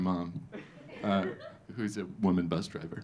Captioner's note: audience laughing